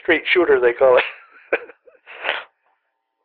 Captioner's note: laughter